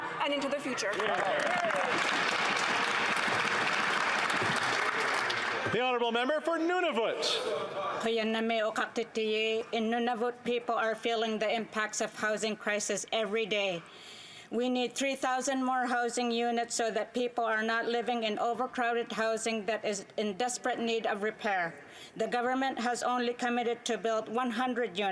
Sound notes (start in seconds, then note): 4.8 some Applause